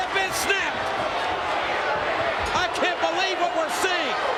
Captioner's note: applause